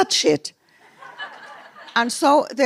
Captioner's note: laughter